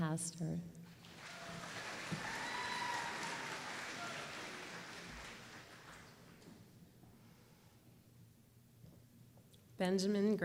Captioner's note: applause